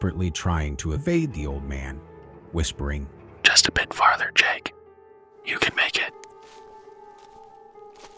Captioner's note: whispering